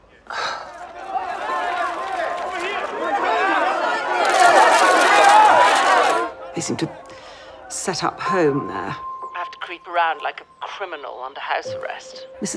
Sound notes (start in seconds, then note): 0.2 mob cheering